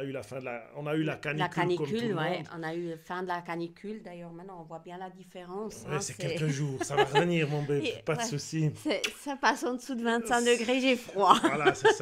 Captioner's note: laughs